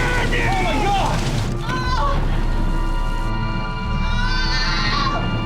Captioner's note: yells